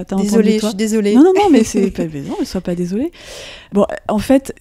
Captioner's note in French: Rires